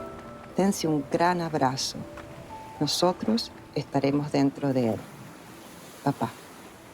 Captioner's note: speaking in Spanish